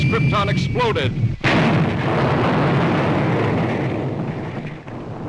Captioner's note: explosion booms